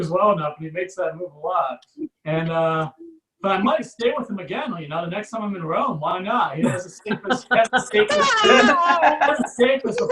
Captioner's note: audience Laughs